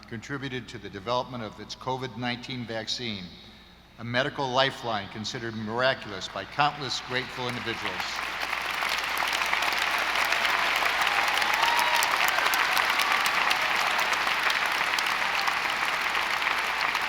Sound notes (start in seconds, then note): 8.1 audience applauding